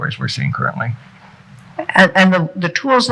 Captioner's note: none